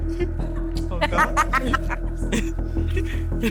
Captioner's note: laughs